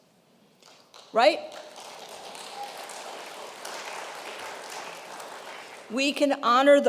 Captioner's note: congregation applauds